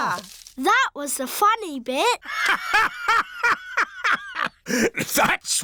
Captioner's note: laughs